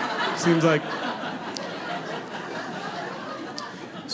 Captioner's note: audience laughing